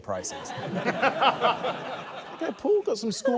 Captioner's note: laughter